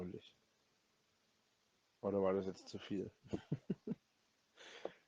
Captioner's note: more dirty giggling